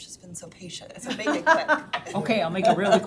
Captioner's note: all laughing